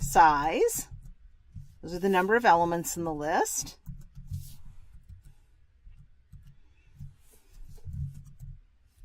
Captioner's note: pause